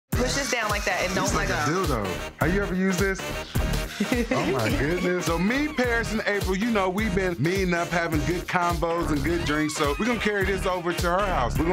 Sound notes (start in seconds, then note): 0.0 beep; 3.8 laughing